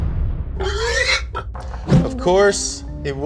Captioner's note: pig squeals